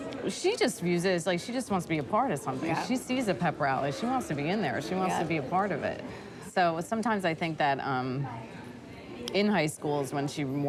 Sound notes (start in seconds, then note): none